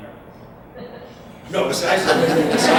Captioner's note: audience laughs